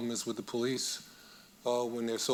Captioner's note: none